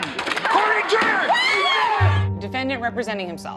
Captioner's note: all cheer